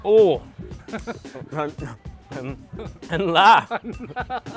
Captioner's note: speaking Mandarin